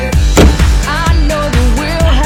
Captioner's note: door banging